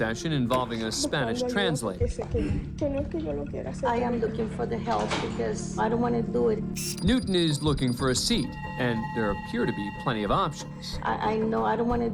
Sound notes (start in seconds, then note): 3.2 speaking Spanish